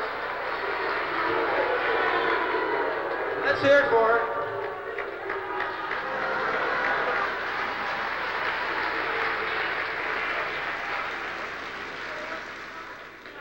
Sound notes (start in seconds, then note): 0.3 booing; 7.0 booing